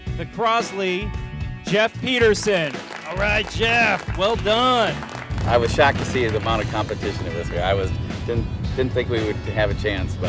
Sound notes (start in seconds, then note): 2.2 crowd clapping